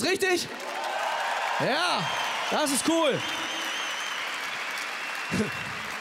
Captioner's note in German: Jubel und Applaus